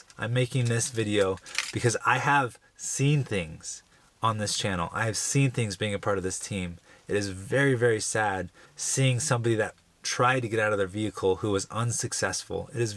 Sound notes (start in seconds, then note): none